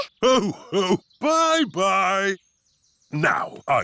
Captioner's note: laughs